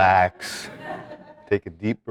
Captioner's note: students laughing